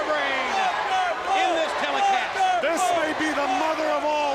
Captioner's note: crowd cheering